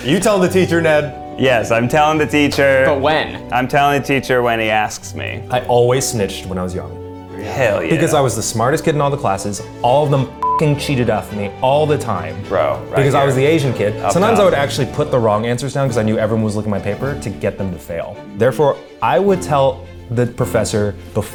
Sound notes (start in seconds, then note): 10.4 beep